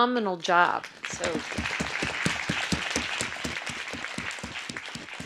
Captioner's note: audience applause